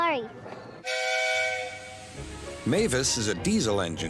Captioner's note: engine whistles